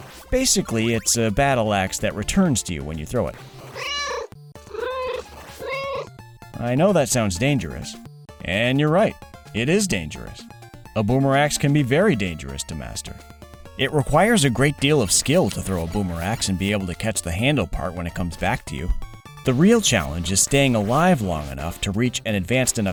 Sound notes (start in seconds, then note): 4.6 meow, meow